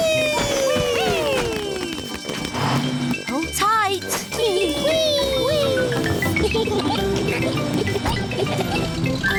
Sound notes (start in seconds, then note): 6.1 giggling